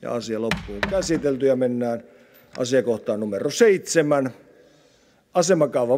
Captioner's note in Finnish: kopauttaa nuijaa